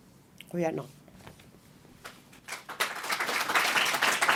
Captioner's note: non-english speech; applause